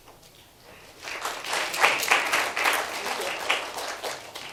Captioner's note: applauding